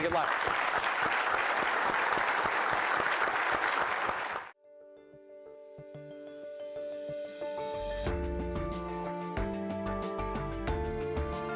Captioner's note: applause